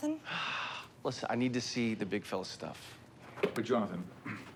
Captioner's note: sighs